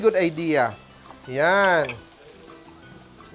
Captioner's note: sizzles